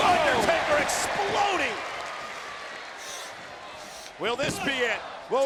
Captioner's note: audience cheers